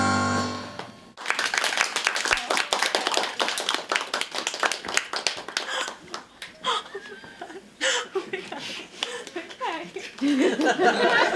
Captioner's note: applause